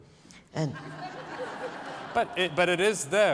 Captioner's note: laughter